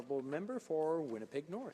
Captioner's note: speaking French